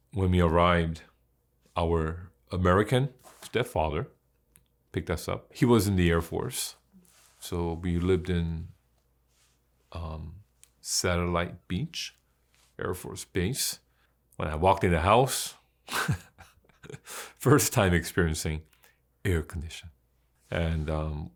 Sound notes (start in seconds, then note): 15.9 chuckles